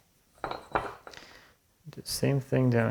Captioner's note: metal on wood ringing